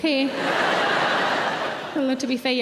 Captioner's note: audience laughing